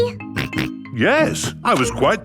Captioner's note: snorts